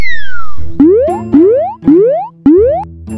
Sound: boing, boing, boing, boing

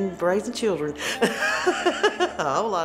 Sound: laughing

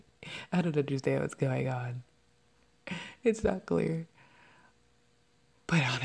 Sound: fake sobbing

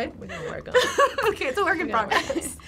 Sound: laughs

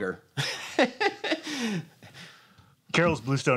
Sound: laughs

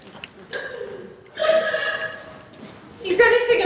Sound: Marianne sobs

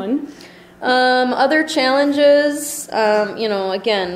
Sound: voiceover

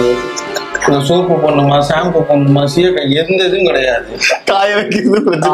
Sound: laughs

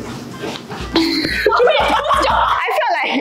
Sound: laughter

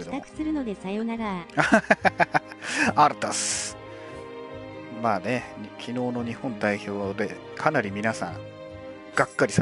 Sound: laughs

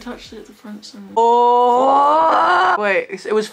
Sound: roars

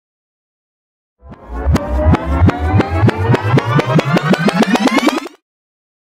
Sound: sound of tape rewind

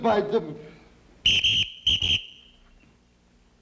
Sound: whistle blowing

